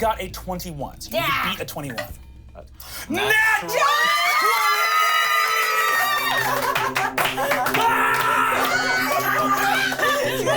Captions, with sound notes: - He's got a 21, so you can beat a 21. - Natural 20. (everyone cheers)